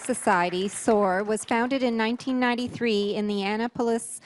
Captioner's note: applause; voice-over